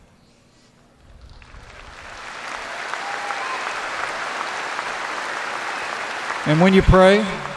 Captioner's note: applause